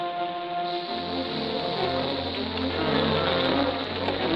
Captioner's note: dynamite fuse hissing